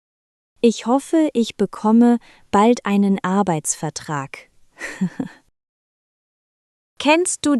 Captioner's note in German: lacht